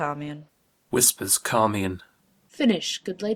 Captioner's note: Whispers CHARMIAN